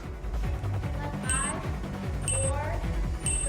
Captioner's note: countdown sound